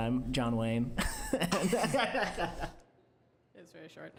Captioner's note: laughing